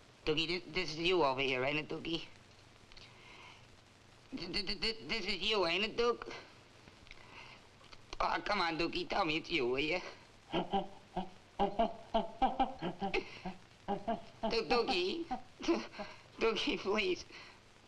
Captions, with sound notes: Dukie, this, this is you over here, ain't it, Dukie? (stammers) This is you, ain't it, Duke? Aw, come on, Dukie. Tell me it's you, will you? (gorilla chittering) (gasps) Du, Dukie, (sobs) Dukie, please.